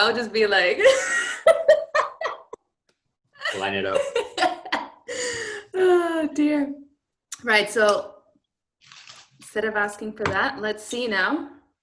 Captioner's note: laughter